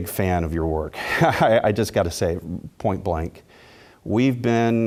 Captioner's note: laugh